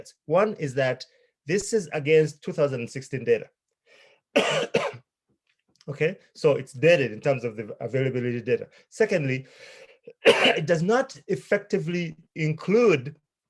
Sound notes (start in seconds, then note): 4.3 coughing; 10.1 coughing